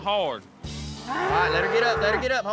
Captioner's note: mooing